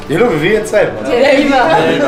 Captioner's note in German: Lacht